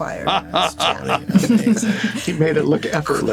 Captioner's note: laughing